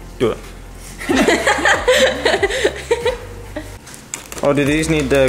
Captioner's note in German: Mädchen lachend